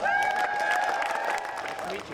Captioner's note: audience applauding